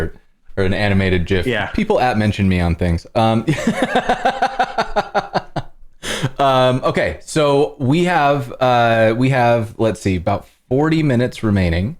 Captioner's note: laughter